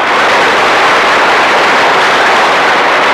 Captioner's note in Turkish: Alkışlar